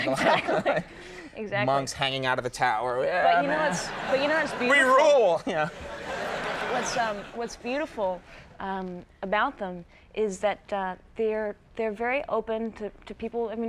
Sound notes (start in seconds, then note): 0.0 laughs; 5.8 audience laughs